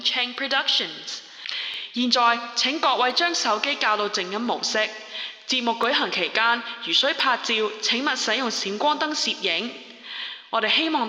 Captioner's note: in Cantonese